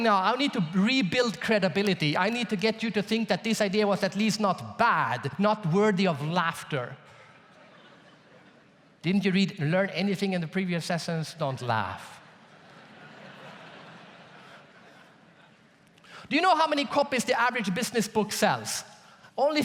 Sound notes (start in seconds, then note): 7.2 audience laughs; 12.3 audience laughs